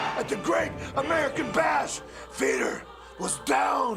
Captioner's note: crowd cheering